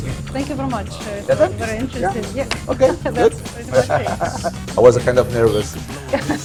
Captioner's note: laughing